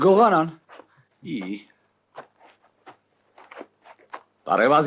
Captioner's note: eh